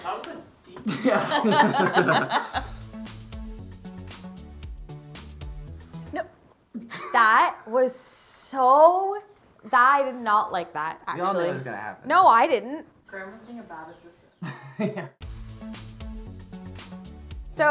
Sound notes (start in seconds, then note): 0.8 laughing; 2.7 upbeat music; 15.1 laughing; 15.2 upbeat music